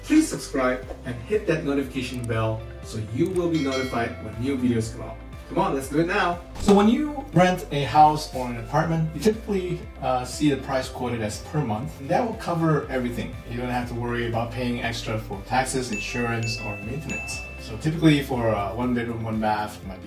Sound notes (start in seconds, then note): 3.5 bell ringing noise